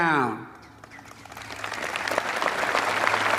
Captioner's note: applause